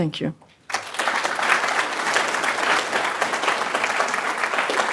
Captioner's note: applause